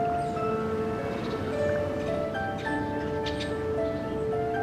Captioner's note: birds chirping